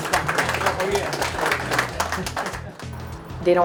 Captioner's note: applause